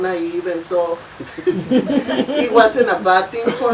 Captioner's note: all laughing